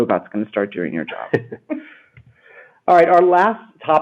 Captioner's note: chuckles